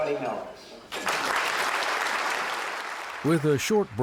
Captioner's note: audience applauding